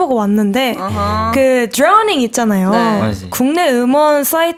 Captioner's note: Drowning